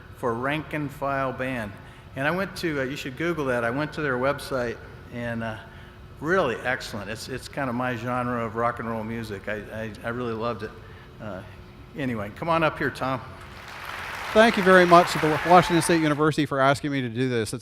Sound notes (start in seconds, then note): 13.4 audience applauds